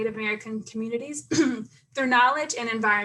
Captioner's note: clears throat